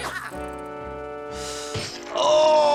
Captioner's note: inhales